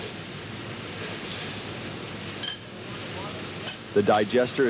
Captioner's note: metal clanking